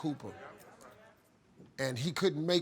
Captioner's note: audience murmuring